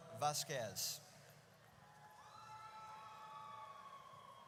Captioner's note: audience cheers